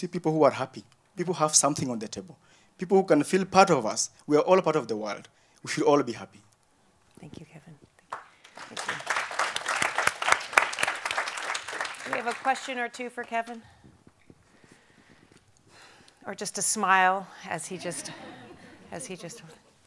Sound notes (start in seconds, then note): 8.0 applause